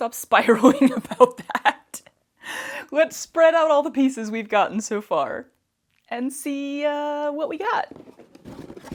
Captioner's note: laughter